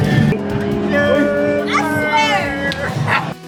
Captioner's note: cheers